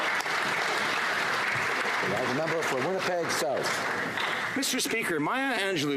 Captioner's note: some Applause